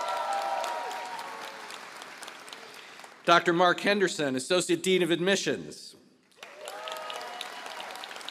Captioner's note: applause